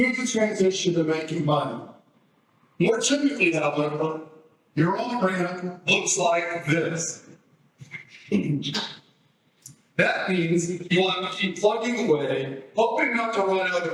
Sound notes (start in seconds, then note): 7.8 laughs